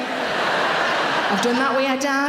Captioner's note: audience mumbling